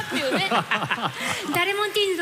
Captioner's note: laughter